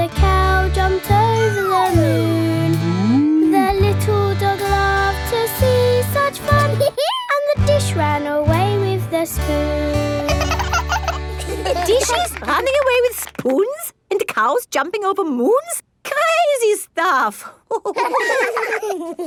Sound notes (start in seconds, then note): 6.8 dog laughs; 10.2 both laugh; 17.7 all laughing